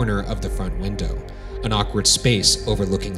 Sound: none

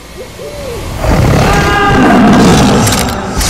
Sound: scream

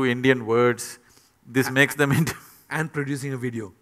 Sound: laughs

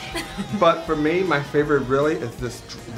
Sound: laughter

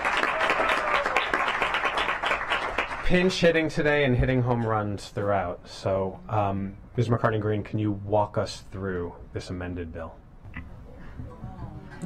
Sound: applause

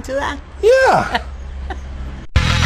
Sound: laughs

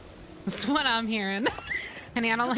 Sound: laughter

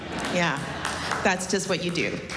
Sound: laughter

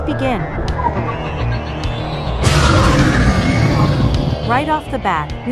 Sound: demogorgon cheers

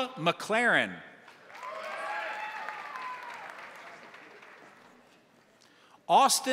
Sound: crowd applauding; crowd cheering

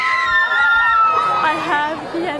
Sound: screams

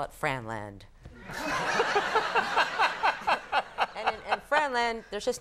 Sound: Conan and audience laughing

